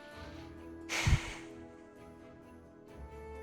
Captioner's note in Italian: Sospira